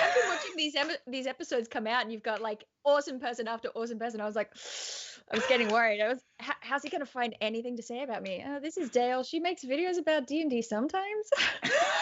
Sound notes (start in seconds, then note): 4.5 hisses softly